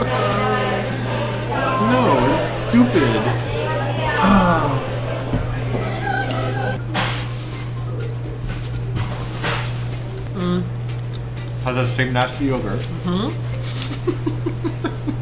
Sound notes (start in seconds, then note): 1.5 victory music; 3.6 groans; 13.6 laughs